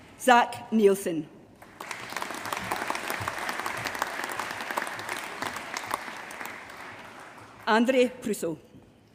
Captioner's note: applause